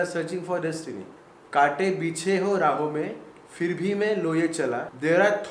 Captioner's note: speaking in Hindi